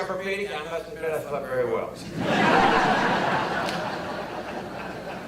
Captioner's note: audience laughter